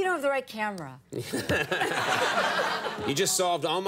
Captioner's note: all laugh